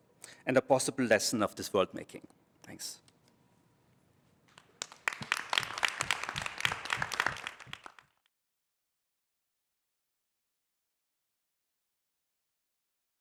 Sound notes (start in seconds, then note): 4.5 applause